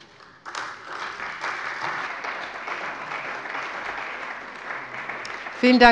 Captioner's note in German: Beifall bei der CDU und dem BÜNDNIS 90/DIE GRÜNEN